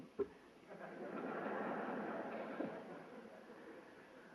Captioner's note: laughter